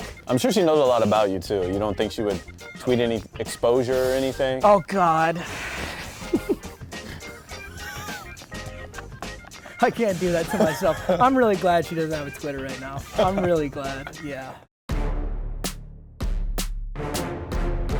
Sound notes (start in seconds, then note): 5.9 laughing; 14.9 intense music